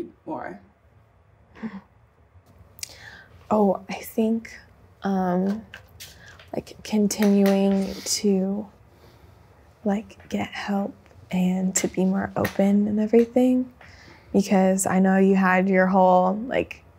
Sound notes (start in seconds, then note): 1.6 chuckles